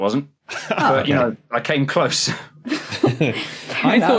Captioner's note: chuckle; laughs